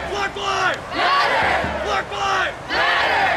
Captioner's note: crowd